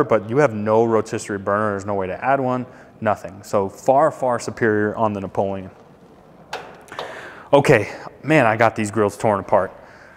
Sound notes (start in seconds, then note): none